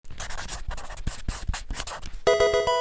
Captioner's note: marker scratching; electronic game chime